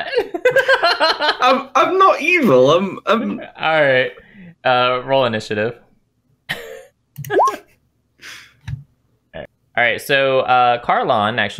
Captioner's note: laughter